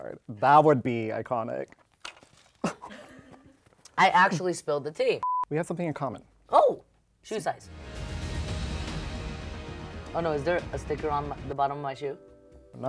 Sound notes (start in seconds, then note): 2.6 chuckles; 7.6 tense music